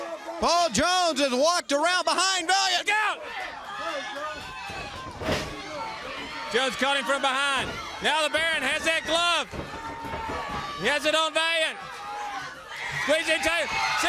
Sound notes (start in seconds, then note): 4.8 crowd chatter